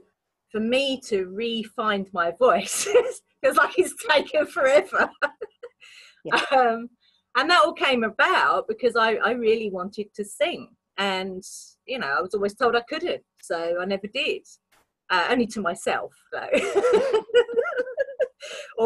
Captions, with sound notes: So for me to refind my voice, it's like it's taken forever, (laughs) - Yeah. - and that all came about because I really wanted to sing and you know, I was always told I couldn't, so I never did, only to myself though (laughing)